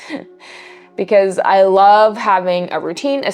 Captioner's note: laughs